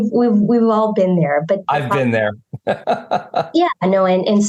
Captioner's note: chuckles